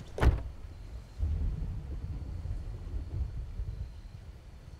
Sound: thunder

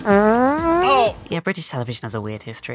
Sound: farts

